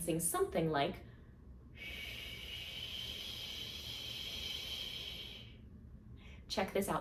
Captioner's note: blowing